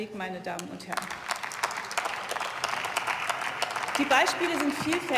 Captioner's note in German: Beifall